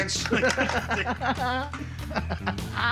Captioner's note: laughter